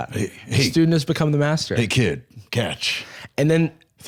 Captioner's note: deep voice